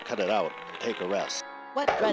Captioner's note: record whirring